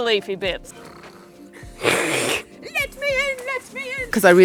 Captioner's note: snort